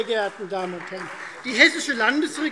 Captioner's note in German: Beifall Freie Demokraten